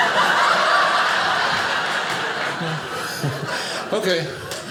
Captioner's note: audience laughing